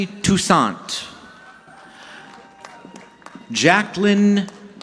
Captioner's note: audience clapping